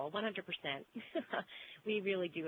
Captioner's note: laughs